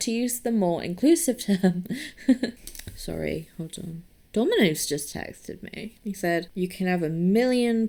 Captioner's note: laughs